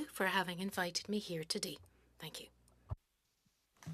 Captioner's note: speaking French